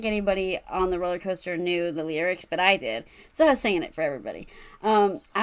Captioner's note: none